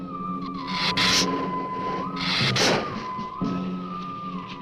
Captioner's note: lizard hissing